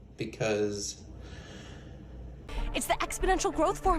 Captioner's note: deep Breath